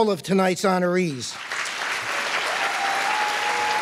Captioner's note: applause